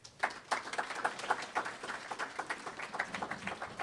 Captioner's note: applause